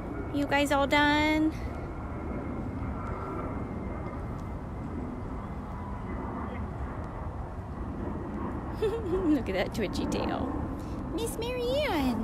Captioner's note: airplane